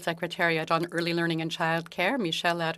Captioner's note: speaking French